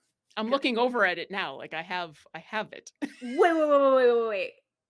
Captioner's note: laughs